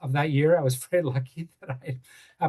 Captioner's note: laughs